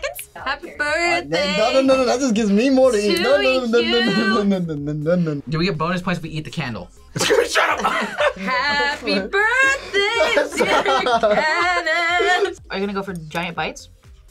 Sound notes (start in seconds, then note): 7.1 laughs